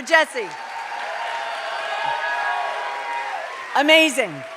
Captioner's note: cheers and applause